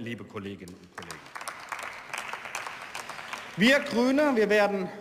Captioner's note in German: Beifall